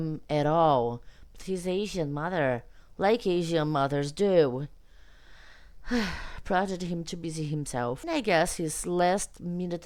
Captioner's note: sighs